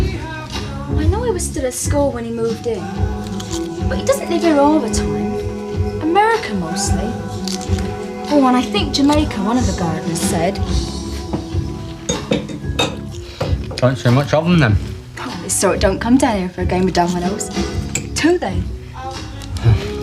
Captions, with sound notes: I know I was still at school when he moved in, but he doesn't live there all the time. America mostly. Oh, and I think Jamaica, one of the gardeners said. (glasses clinking) - Don't see much of him then? - His sort don't come down here for a game of dominoes. Do they?